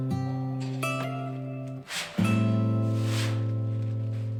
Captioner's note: poster tearing